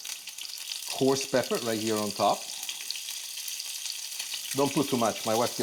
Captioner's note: loud sizzling